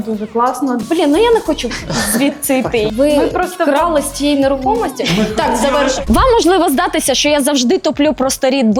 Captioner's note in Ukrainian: сміх